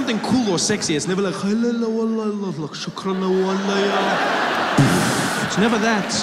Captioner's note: explosion